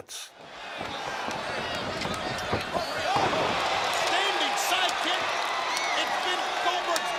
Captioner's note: applause